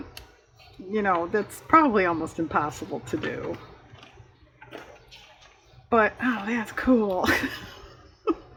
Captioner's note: laughs